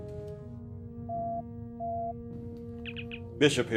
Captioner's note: sounds: communicator beeps